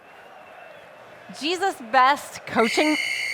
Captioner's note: whistle